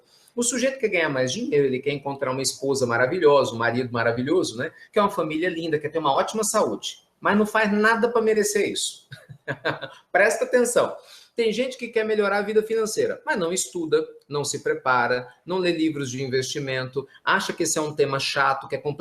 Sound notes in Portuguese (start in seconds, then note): 9.1 risos